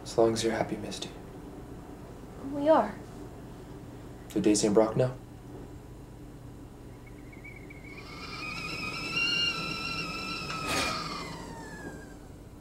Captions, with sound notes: - As long as you're happy, Misty. - We are. - Do Daisy and Brock know? (kettle whistling)